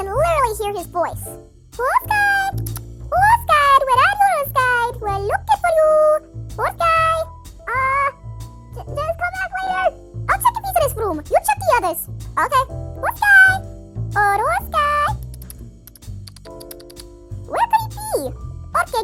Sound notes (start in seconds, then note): 2.5 clicks; 16.2 clicks